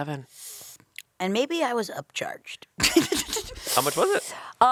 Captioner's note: laughs